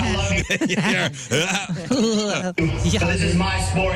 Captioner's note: laughter